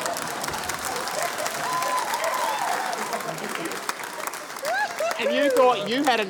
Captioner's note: cheering, applause